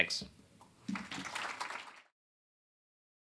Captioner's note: applause